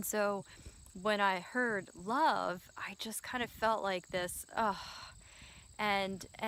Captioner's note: sigh